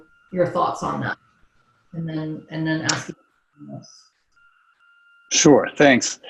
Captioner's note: audio drops out